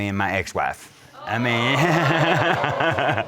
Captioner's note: crowd gasping